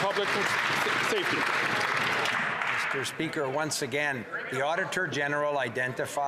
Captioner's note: some Applause